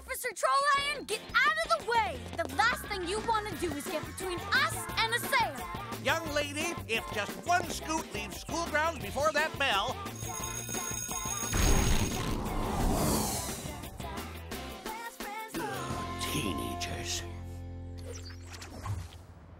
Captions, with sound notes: THE LAST THING YOU WANT TO DO IS GET BETWEEN US AND A SALE. YOUNG LADY, IF JUST ONE SKOOT LEAVES SCHOOL GROUNDS BEFORE THAT BELL-- [BELL RINGS] [GROANS] TEENAGERS.